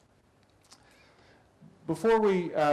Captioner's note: pause